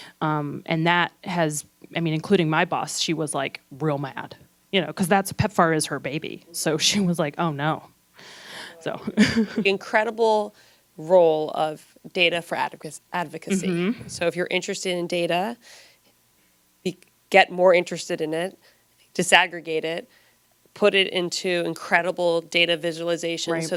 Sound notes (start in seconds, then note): 9.1 laughs